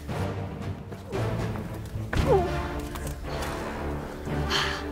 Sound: grunting and panting; intense music; panting

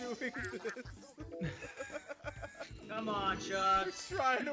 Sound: laugh

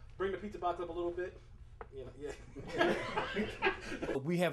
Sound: all laughing

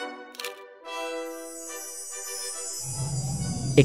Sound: elegant classical music; camera clicks

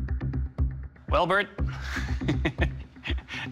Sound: chuckles

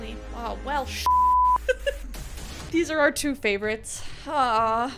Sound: beeps

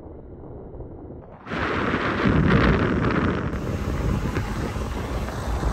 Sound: wind blowing

